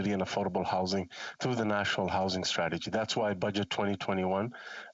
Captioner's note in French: voix de l'interprète